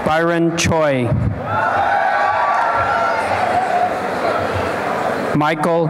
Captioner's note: applause and cheering